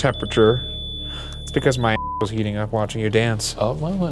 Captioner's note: beep